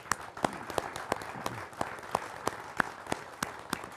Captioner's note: applauding